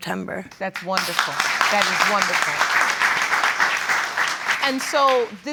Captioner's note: audience applauding